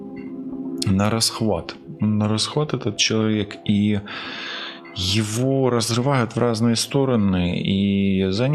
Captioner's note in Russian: тяжело вздыхает